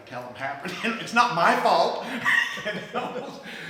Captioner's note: laughs